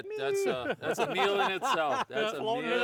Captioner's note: laughing